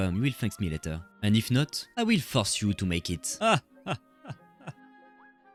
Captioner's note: Doflamingo laugh